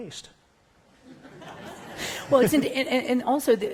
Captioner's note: laughter